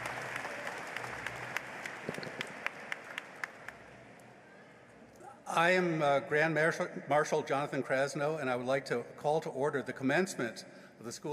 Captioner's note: applause